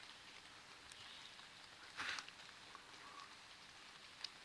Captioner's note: bird chirping